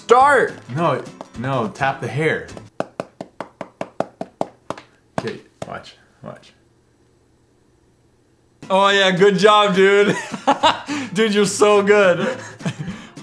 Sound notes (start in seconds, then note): 10.1 giggle; 10.5 laughs